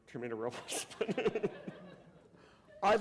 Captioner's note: laughter